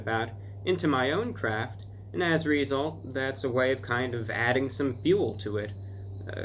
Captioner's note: cicadas begin singing